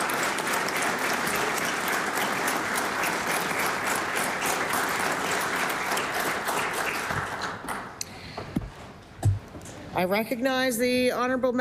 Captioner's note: applause